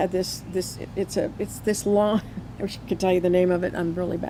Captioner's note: chuckles